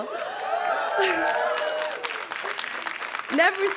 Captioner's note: crowd cheering and clapping